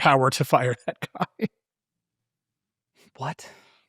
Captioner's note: laughing